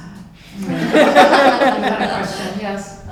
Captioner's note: laughter